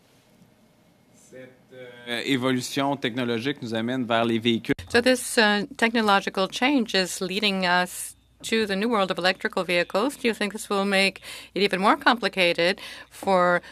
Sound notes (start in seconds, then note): 11.6 speaking French